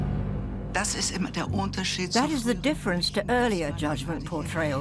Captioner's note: in German